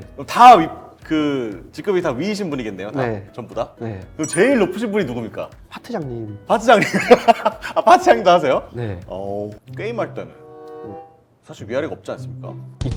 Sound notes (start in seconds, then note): 6.8 laughing